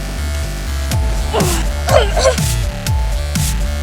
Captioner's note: choking